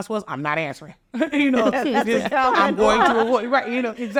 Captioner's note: all laughing